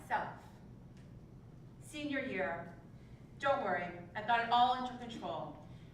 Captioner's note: none